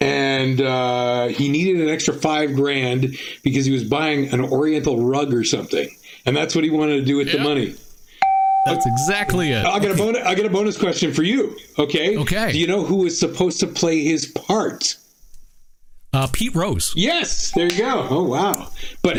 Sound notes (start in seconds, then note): 8.2 bell dinging; 17.6 bell dinging